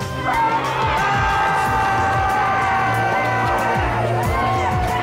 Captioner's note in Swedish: gängmedlemmar skriker